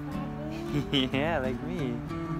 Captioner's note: laughs